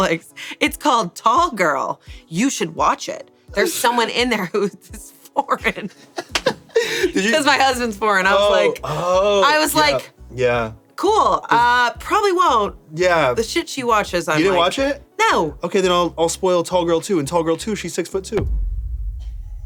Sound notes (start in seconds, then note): 5.9 everyone laughs